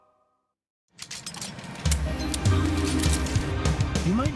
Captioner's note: weapons clattering